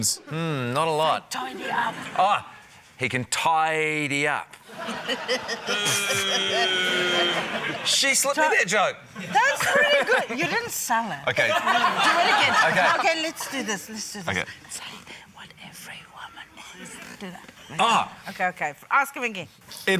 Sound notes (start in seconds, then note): 4.8 chuckles; 4.9 scattered laughter; 11.4 laughter